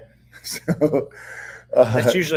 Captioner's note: chuckles